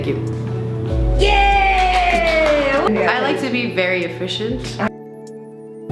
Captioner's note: claps